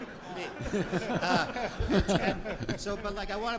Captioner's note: audience laughs